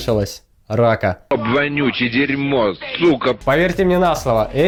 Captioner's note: 90's movie voiceover